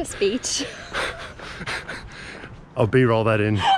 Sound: laughs

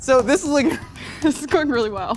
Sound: laughs

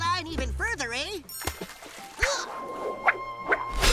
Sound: water splashes; grunts, splutters

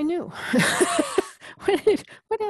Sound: laugh

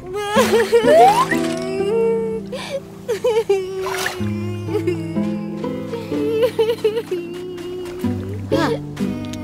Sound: crying

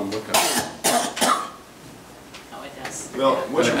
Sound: coughs

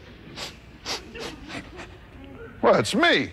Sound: sniffs

